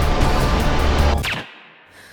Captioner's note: gun fires; Quinn panting